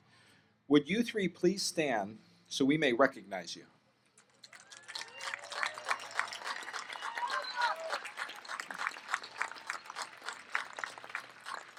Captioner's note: applause